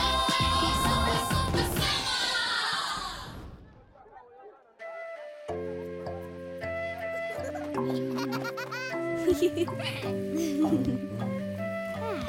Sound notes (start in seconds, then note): 7.2 giggling